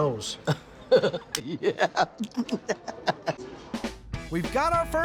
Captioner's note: chef laughs